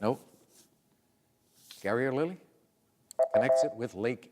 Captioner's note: beep